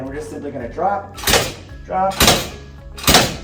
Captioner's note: table rattling